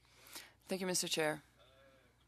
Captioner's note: speaking French